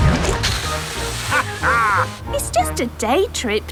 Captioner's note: captain dog laughs